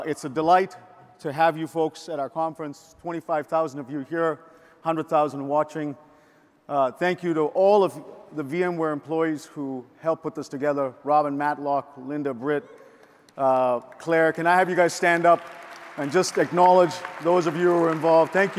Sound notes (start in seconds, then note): 14.3 audience applauds